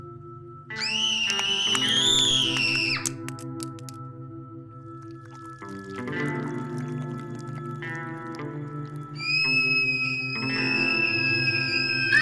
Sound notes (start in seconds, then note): 0.8 yells loudly; 9.4 yelling